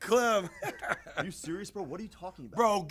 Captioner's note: laughter